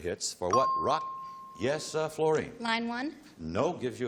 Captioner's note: ping